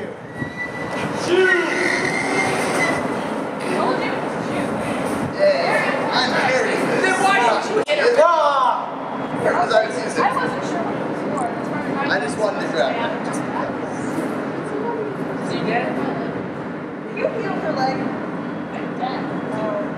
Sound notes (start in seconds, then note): 1.6 swan dies a shrieking death; 5.3 victorious chatter